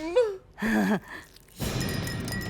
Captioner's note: laughs; bell tinkles, cat mewls